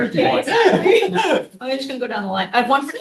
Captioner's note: laughter